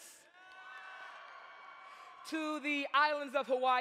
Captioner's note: audience cheers